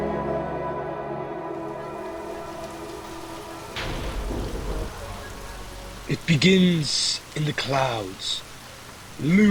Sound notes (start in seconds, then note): 1.4 rain